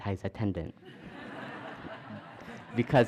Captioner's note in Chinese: 笑聲